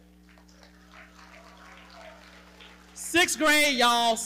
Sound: audience cheering and clapping

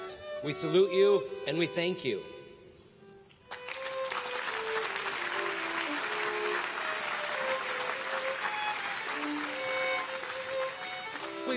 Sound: applause

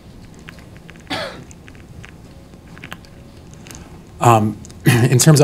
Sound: distant cough

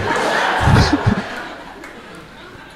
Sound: crowd laughing

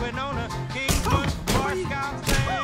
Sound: Lightning exclaims

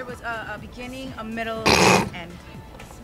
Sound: snorting

